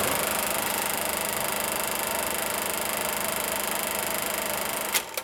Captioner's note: film projector running